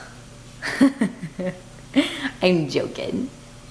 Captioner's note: laughing